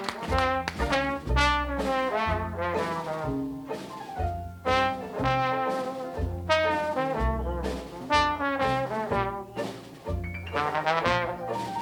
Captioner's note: applause